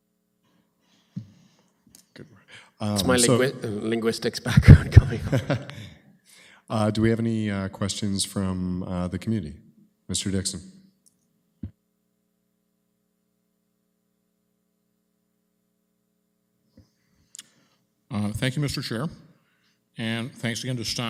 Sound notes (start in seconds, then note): 4.5 chuckles